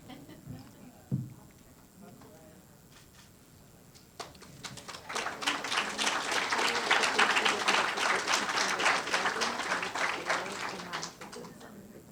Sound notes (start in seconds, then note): 4.1 applause